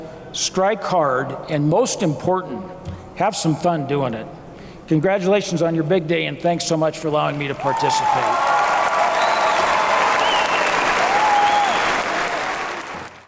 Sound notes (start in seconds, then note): 9.2 applause